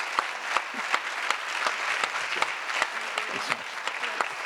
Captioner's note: audience applause